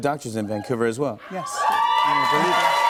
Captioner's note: cheers and applause